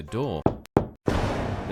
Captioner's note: knocking